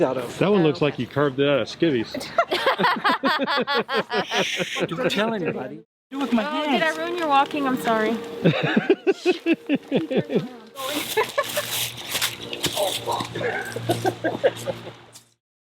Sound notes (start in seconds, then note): 2.1 all laughing; 8.4 laughing; 11.0 leaves rustling; 13.3 laughing